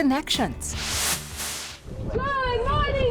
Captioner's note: whooshing